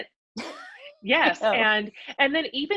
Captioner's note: laughs